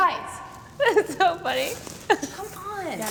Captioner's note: giggles